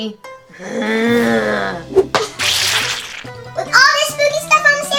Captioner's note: monster growls